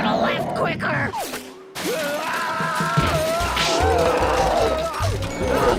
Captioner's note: screaming, roaring